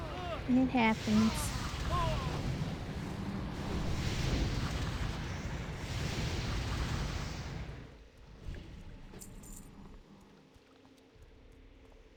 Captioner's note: growling